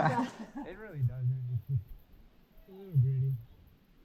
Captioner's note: laughing